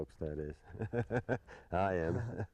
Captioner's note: laughter